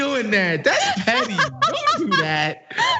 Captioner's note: laugh